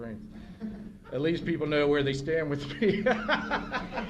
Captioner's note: laughter